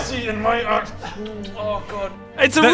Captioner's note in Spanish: besos